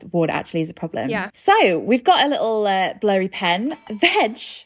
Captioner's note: ding